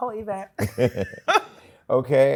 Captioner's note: laughter